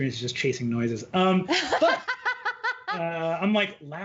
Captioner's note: laughing